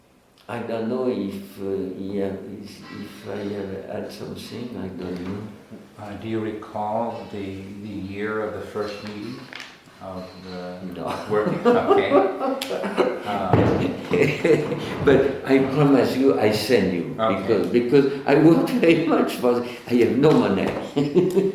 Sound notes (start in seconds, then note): 14.3 laughs